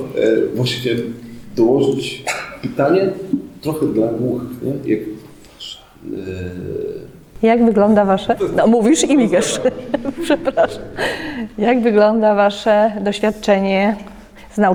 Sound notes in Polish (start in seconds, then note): 9.3 śmiech